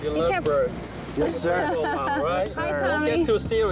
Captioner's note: laughing